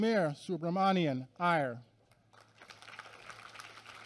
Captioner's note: applause